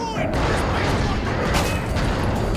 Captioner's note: gunshot